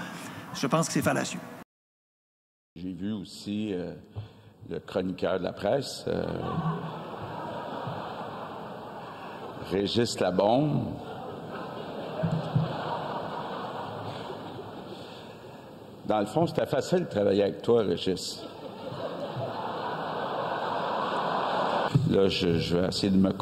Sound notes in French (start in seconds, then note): 11.0 rires